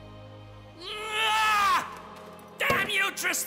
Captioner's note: screaming